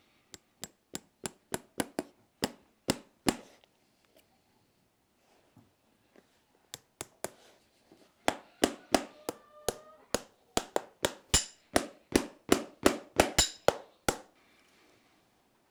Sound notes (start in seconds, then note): 0.3 hammer striking nails; 6.6 hammer blows to drive in the nail